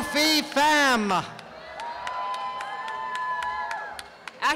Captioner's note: applause and cheering